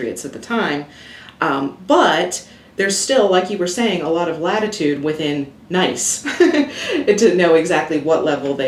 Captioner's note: chuckles